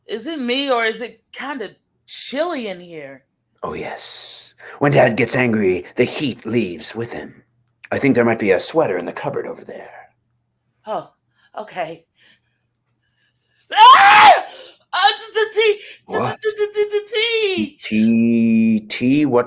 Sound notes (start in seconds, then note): 13.7 Blair yells